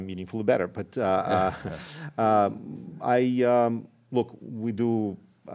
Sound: laughter

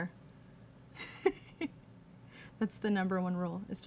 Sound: giggling

